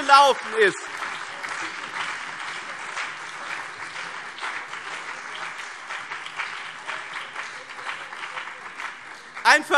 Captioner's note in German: Beifall BÜNDNIS 90/DIE GRÜNEN und CDU - Zurufe SPD